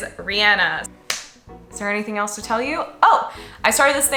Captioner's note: claps